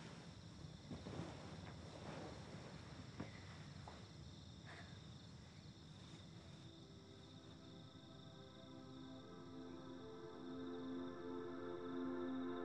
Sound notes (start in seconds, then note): 6.6 placid music; 6.6 crickets chirping